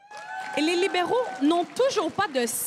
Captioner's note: crowd cheering and applauding